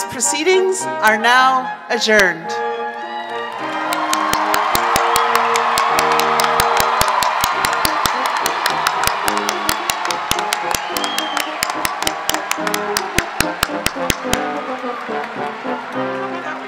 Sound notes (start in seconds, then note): 3.6 audience clapping and cheering; 13.7 quintet playing